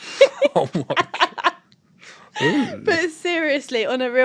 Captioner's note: laughter